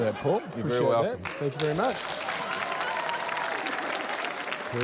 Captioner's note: applause